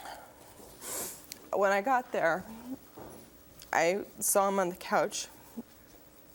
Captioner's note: sniffles